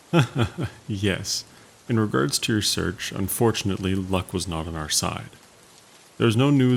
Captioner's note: laughs